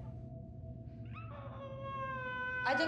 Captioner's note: baby cries